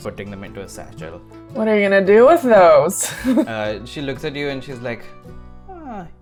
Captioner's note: laughs